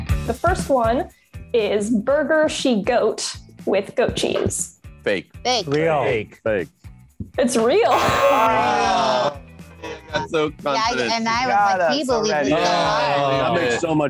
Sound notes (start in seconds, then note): 7.9 buzzer buzzes; 7.9 group groans